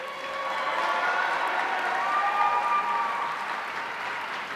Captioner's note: audience cheering